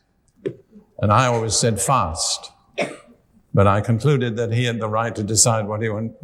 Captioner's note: with British accent